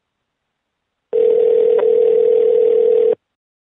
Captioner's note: phone ringing